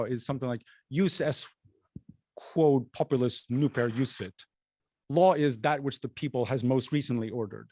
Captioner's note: non-english speech